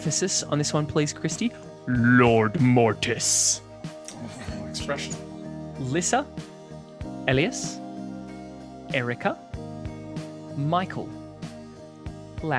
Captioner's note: metal voice